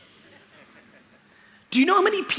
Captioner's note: laughter